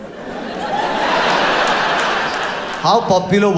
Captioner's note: audience laughs